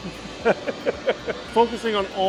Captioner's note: laughs